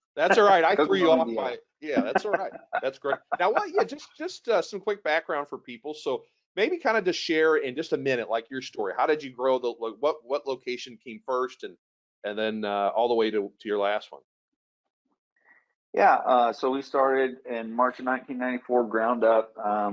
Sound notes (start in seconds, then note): 1.8 laughs